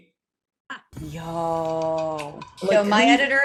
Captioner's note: shade rattle